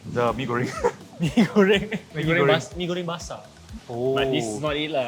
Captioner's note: laughs